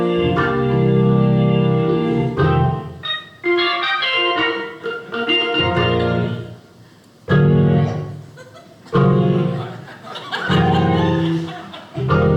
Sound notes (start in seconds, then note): 0.0 organ plays; 8.3 audience laughing